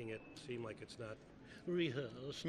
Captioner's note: snooty voice